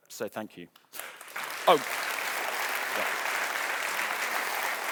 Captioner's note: audience applauding